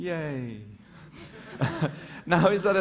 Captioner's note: laughter